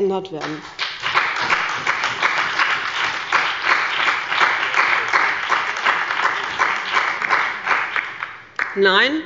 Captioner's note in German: Beifall bei dem BÜNDNIS 90/ DIE GRÜNEN, der CDU und bei Abgeordneten der SPD